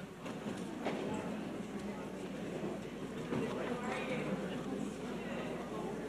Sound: audience chattering

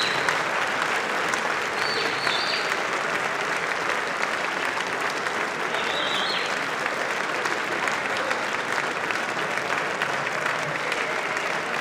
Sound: applause

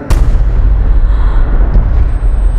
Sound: gasps

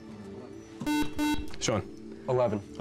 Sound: beep

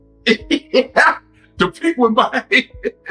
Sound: laughs

